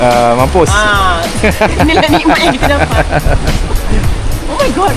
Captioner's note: laugh